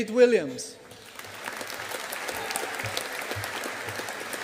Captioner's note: audience applauding